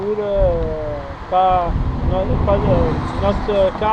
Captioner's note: French